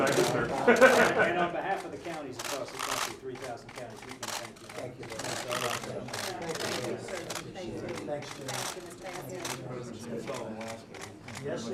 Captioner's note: laughter